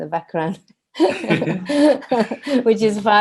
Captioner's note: all laugh